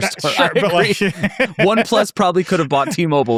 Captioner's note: people laughing